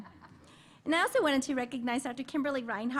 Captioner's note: laughter